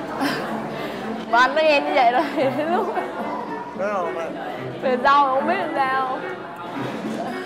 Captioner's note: laugh